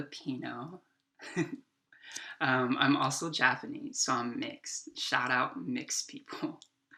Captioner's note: chuckles